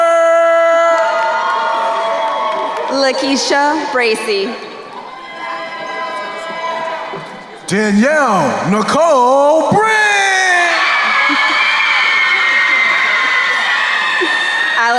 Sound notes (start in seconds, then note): 1.2 crowd cheering; 5.4 crowd cheering; 11.0 crowd cheering and applauding